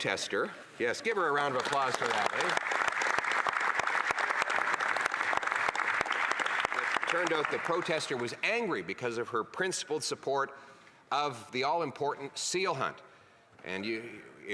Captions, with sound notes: quote, back to the business at hand. That protester, yes, give her a round of applause for that. [Applause] Turned out the protester was angry because of her principled